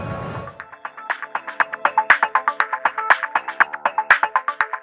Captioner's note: bright tech tones